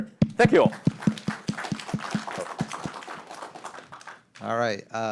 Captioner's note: audience applauding